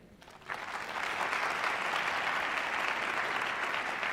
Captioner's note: applause